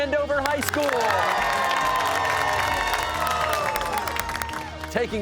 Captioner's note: cheers and applause